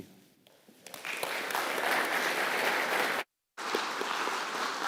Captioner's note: audience claps